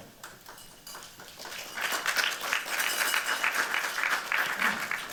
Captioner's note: applause